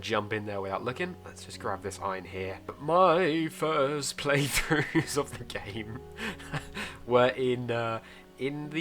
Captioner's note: shakily